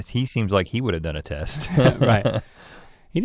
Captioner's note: chuckles